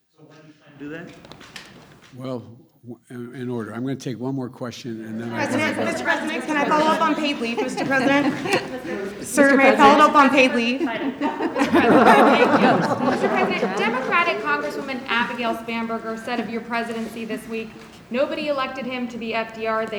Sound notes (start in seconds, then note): 11.0 laughs; 12.5 laughter